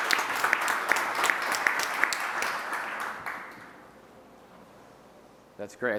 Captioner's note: audience applauds